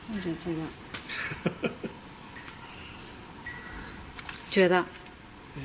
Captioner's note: chuckles